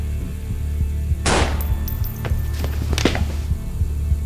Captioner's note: A gunshot fires